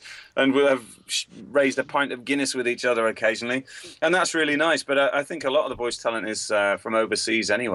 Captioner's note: none